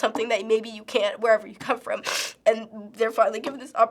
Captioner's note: sniffling